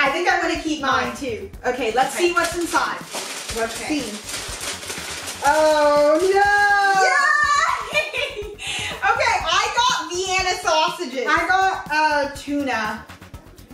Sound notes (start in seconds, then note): 3.9 rustling; 7.5 laughing